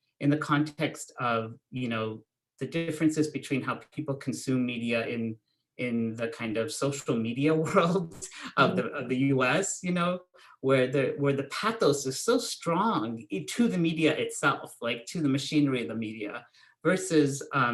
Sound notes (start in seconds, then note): 7.6 chuckles